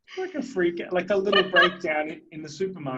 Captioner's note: laughing